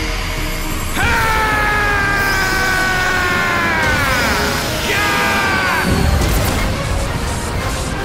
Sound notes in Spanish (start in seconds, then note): 0.9 Gritos; 4.6 Grita